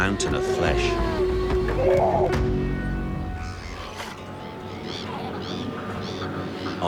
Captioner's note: dramatic music; sea lion crying